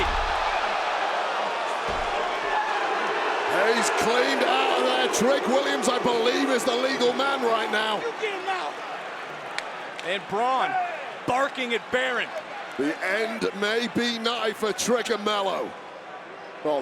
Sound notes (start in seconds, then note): 0.2 crowd vocalizing; 9.6 hands slap